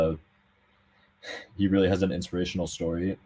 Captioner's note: sighs